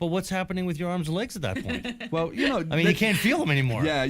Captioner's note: laughs